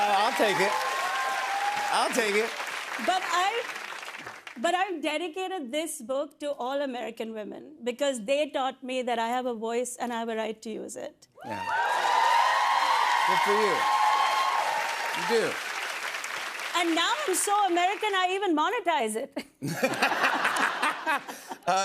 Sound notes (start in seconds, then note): 11.4 cheers and applause; 19.4 laughter